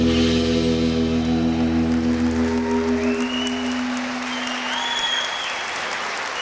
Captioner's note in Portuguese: aplausos